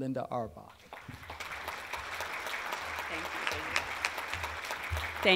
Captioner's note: applause